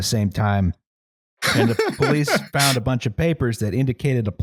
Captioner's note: laughs